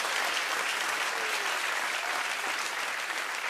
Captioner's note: applause